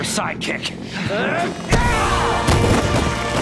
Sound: grunting

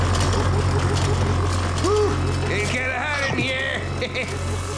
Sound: chuckles

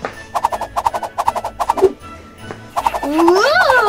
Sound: fast comical whooshes

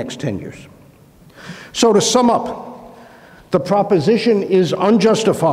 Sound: inhales

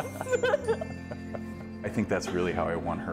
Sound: laughs

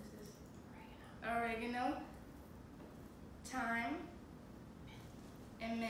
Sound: whisper; whisper

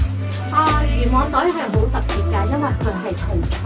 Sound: in Cantonese

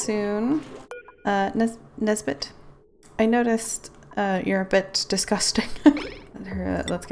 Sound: laughs

